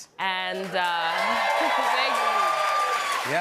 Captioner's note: cheers and applause